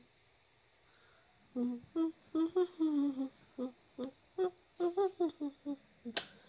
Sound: Jackson hums "We Wish You a Merry Christmas"

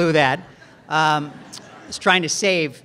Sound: audience laughs

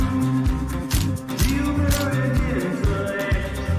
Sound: camera shutter

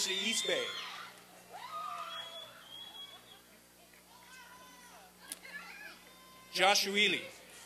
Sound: applause and cheering

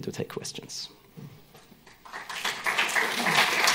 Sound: clapping

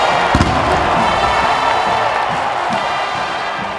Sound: marching band playing; canon fires

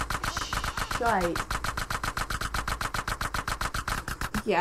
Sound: gunfire

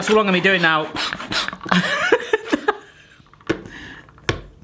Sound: giggling

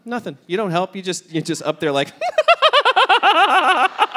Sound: laughing

